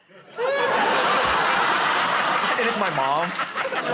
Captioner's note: laughter